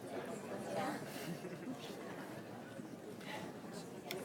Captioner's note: crowd murmuring